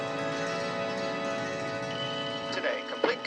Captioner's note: doorbell ringing